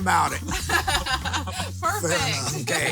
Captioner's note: laughs